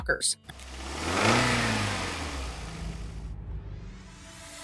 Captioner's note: speeds off